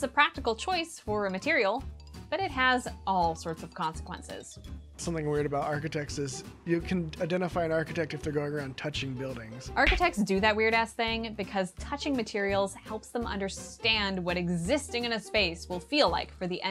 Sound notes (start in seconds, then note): 9.8 smack sound effect